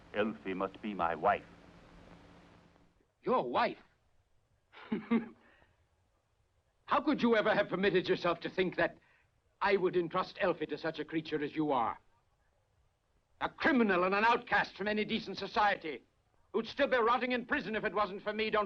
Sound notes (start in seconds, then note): 4.7 laughs